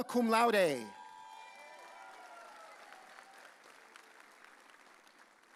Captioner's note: audience cheering